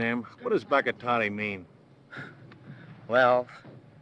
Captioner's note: speaking foreign language